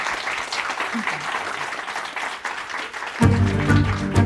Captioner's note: applause